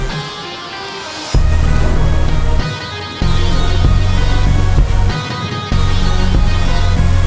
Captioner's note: rain splashing; thunder rumbling